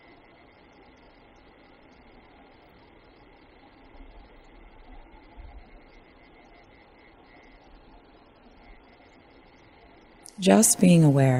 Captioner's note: silence